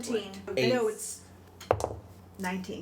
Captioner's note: dice roll